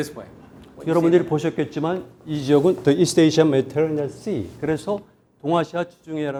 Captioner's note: speaking in Korean